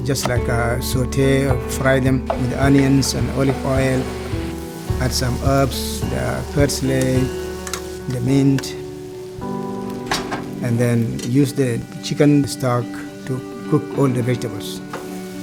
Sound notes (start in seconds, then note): 9.3 gentle music; 9.3 pan frying